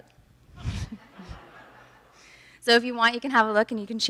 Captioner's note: audience laughs